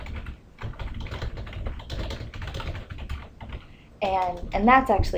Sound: typing on key board

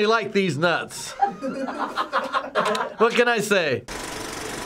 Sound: Finebros laughing; movie reel clicks

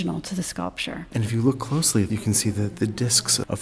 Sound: voiceover

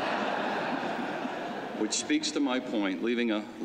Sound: laughter

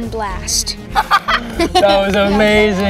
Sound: laughing

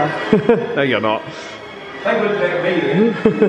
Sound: laughs

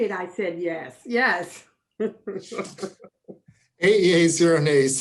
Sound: laughing

